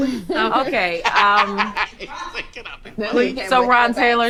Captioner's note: man laughing